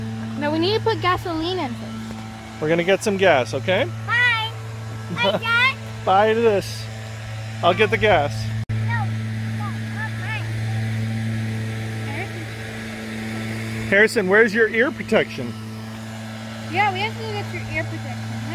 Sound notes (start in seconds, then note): 5.1 laughs; 8.9 lawnmower noise in background